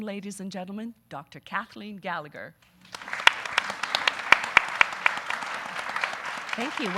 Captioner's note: audience applauding